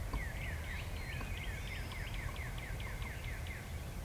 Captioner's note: birds chirping